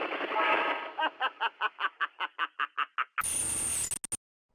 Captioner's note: Richtofen's laughing